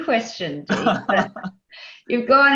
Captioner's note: laughing